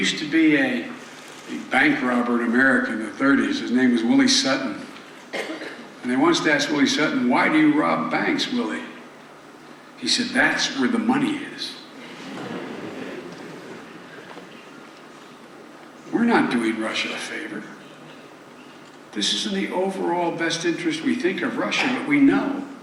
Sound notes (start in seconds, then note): 12.2 laughter